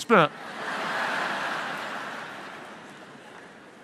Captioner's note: audience laughs